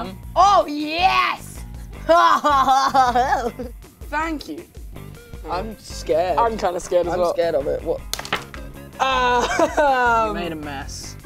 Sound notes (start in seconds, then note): 2.0 laughing